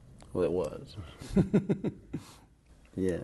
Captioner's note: laughter